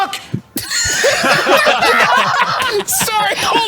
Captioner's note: speaking In German; laughs